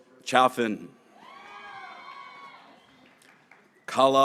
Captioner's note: graduates cheering